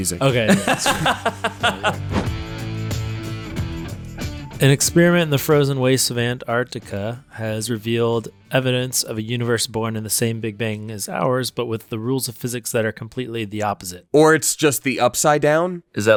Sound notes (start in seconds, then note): 0.2 laughs loudly; 2.6 upbeat music